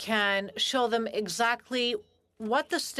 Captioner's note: speaking in French